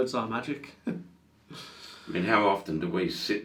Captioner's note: light chuckling